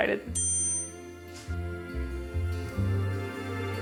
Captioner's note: bell chime; light music